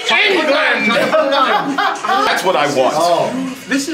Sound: people laughing

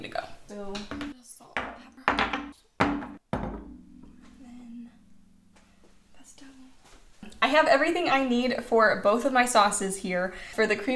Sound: clanking noises from spices

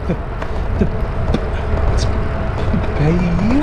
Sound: distressed sputtering

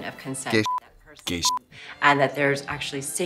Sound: beep

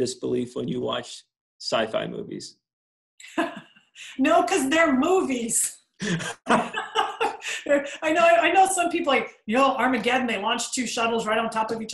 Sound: laughs

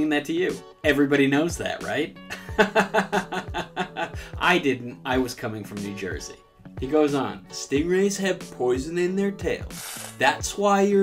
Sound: laugh sarcastically

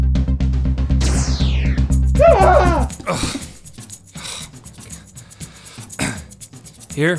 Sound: yells

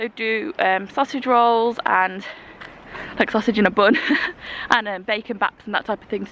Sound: laughs

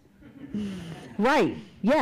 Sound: audience laughs

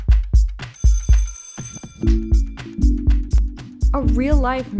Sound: bell rings

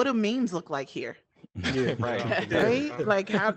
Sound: group laughing

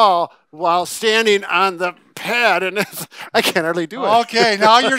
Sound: laughs

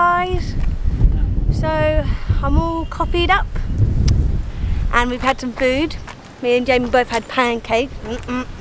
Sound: laughing and nearly tripped over

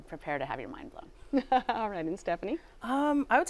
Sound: chuckles

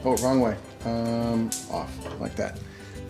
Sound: hums

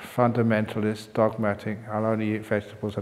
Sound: none

